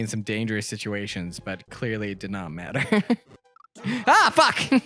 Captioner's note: laughs